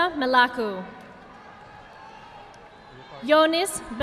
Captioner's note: audience applauding